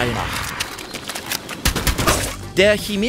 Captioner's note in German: Kampfgeräusche